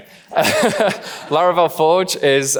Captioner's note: laughing; laughs